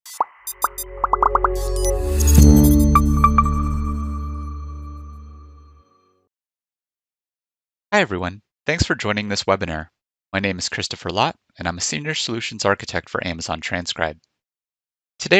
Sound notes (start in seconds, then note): 0.1 graphics popping; 0.1 graphics beeping; 2.4 logo chiming; 2.4 logo humming